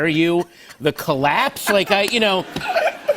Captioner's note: laughter